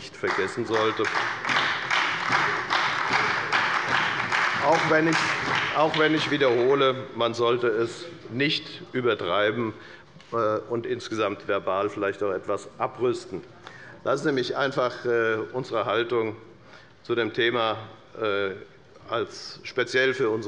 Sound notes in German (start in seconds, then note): 0.0 Beifall bei der FDP und der SPD